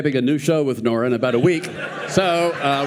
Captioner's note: audience laughing